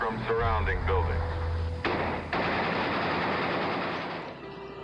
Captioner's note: guns shooting